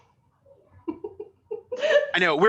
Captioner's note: giggles